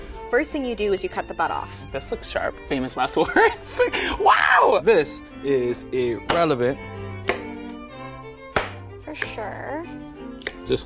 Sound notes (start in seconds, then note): 3.6 laughs; 7.0 chopping